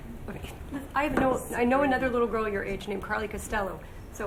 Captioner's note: stammers